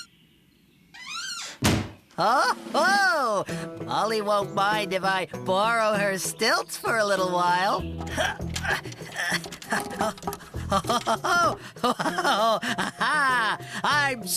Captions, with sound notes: ( Door Squeaks & Shuts ) OH! HO! MOLLY WON'T MIND IF I BORROW HER STILTS FOR A LITTLE WHILE. ( Grunts ) OH, OH-HO-HO! ( Laughing )